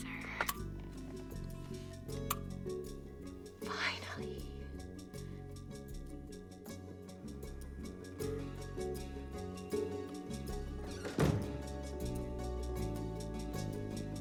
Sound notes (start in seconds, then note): 3.7 whispers